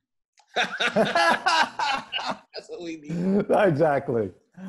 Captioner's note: laughs